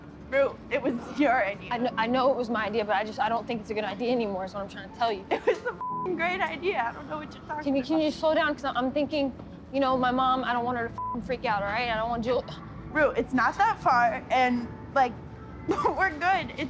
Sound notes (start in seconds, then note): 5.3 laughs; 5.8 beep; 11.0 beep